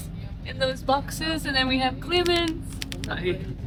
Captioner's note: typewriter clacking